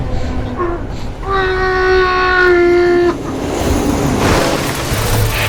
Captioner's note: muffled screaming; crash